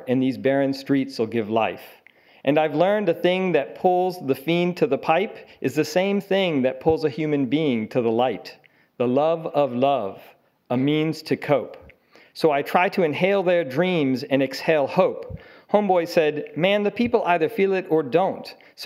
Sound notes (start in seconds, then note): none